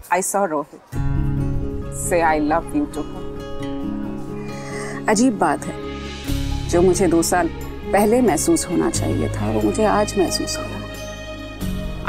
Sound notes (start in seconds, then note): 4.3 gasps